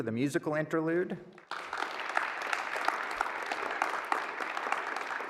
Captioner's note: applause